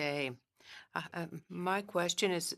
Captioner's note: speaking French